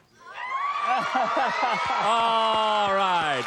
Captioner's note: cheers, applause